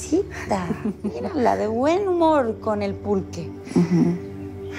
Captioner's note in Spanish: Risas